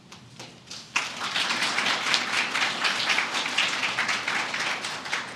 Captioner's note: applause